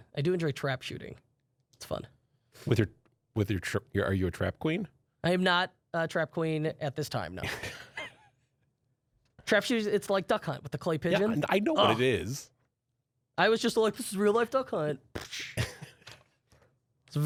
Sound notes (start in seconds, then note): 7.4 both laughing; 15.5 laughs